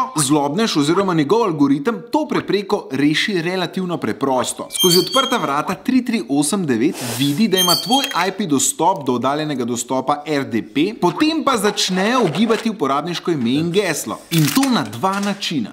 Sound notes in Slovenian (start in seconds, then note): 4.7 škripanje